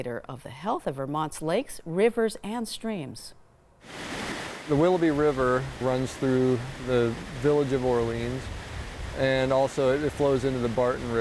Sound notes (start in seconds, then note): 4.1 river water splashing